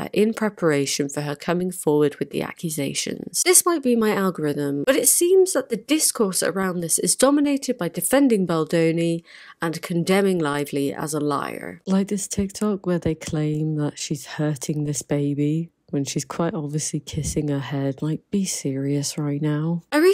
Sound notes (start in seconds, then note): none